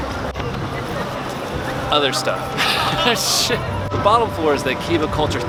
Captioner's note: laughs